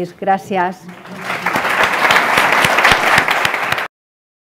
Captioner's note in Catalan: Aplaudiments